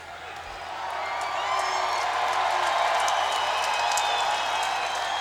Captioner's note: crowd cheers and claps